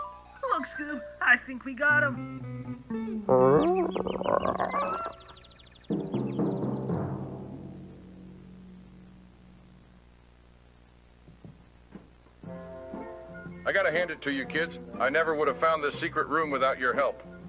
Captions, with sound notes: Look Scoob! I think we got him! [DIZZY SPRINGTRAP NOISES] -- I gotta hand it to you kids, -- I never would have found this -- secret room without your help.